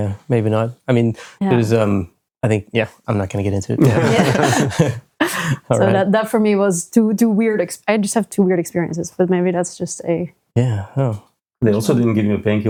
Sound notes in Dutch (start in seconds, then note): 3.7 lacht